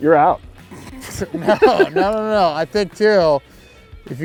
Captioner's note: laughing